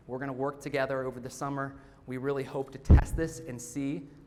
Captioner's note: none